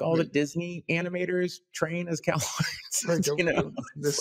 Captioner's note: laughs